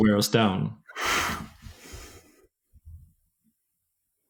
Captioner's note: exhaling